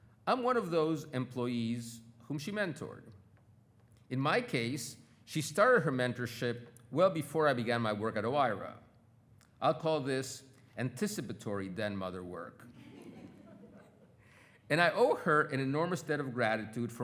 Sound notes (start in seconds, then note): 12.7 attendees laughing